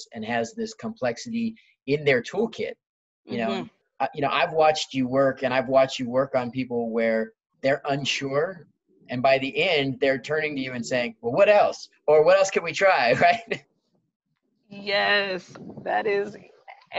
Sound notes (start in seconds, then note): 13.1 laughs